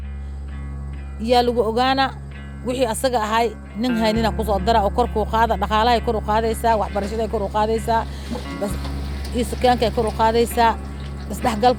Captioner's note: non-english speech